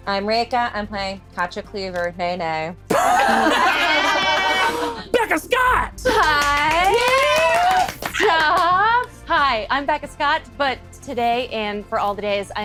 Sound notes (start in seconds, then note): 2.9 group laughing; 6.0 group clapping